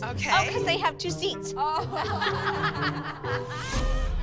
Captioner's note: laughter